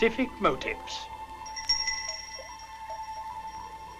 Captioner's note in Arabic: يدق الجرس